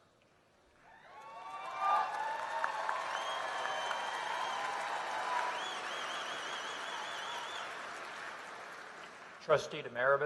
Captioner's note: applause